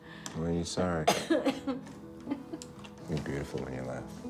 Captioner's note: Betsy coughs